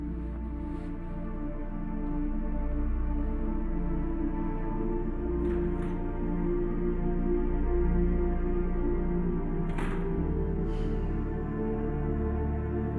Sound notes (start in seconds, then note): 5.1 door opens; 9.6 door closes; 10.2 sighs